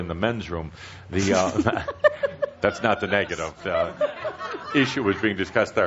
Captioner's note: giggles and some laughter